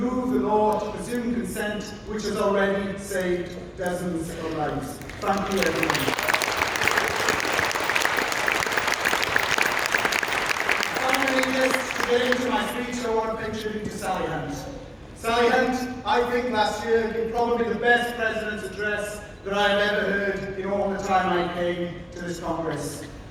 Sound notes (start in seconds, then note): 4.7 applause